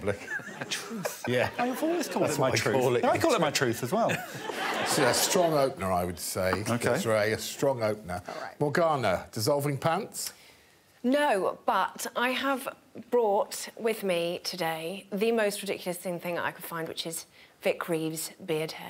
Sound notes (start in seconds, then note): 4.1 all laughing